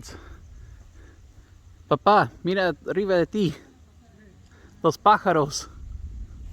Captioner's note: spanish